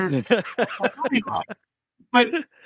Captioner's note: laughs